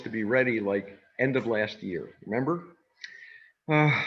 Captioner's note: sighs